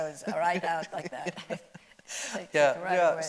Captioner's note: laughing